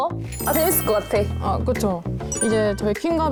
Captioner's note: expectant sound effect